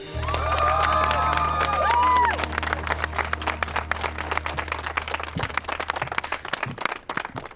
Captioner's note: cheering, applause